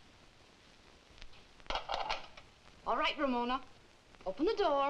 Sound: lock clicking

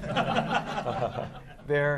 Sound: laughter

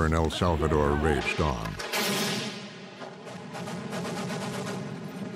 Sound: guns firing

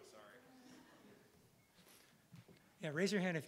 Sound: audience chuckling

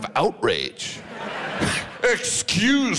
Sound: audience laughs

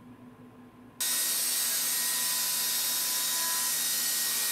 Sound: drill whirring

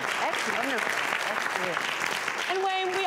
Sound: applause

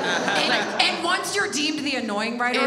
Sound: audience laughs

